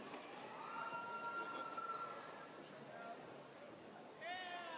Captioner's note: audience cheers